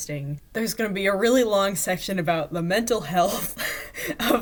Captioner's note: laughing